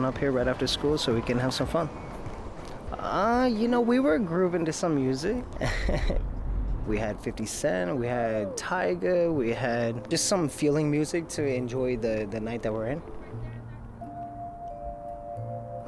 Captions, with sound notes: I brought my son up here right after school so he can have some fun. You know, we were grooving to some music. (chuckles) We had 50 Cent, we had Tyga, we had just some feeling music to enjoy the night that we're in.